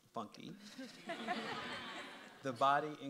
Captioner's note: audience laughs